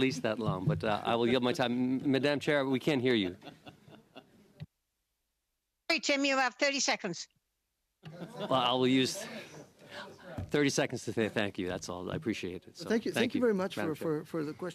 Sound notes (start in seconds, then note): 6.4 laughter